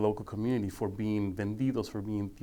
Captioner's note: speaking foreign language